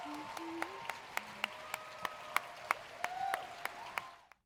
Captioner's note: cheers and applause